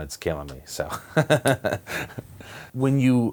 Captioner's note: laughter